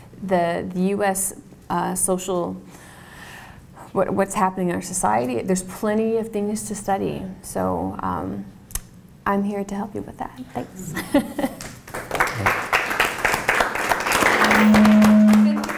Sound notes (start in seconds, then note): 10.7 laugh; 11.5 applause